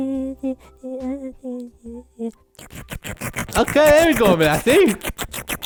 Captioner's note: slurps